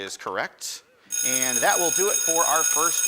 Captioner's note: school bell rings